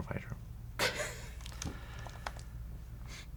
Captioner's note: laughter